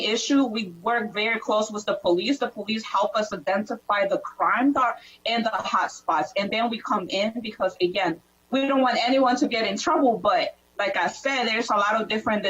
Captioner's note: different language